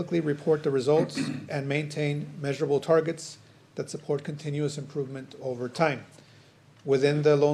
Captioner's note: clears throat